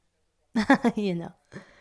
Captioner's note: laugh